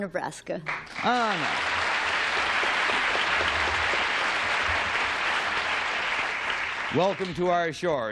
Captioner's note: applause